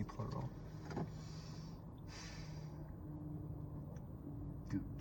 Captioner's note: breathes deeply